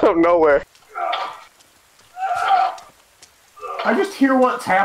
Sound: echo-y grunts

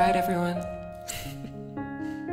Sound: chuckles

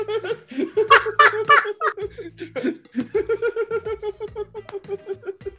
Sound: laugh

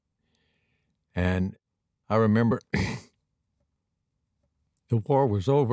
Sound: clears throat

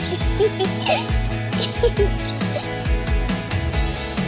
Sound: girls giggling

